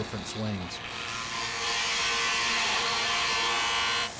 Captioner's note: machine whirs